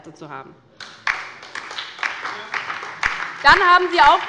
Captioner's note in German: Beifall bei der LINKEN und der SPD